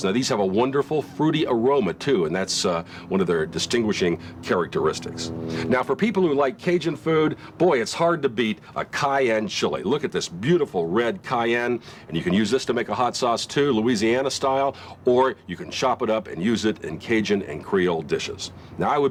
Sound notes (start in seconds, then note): none